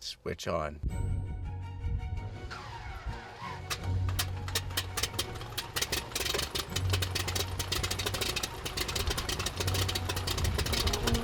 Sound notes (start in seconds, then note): 0.8 whimsical music; 5.5 whirring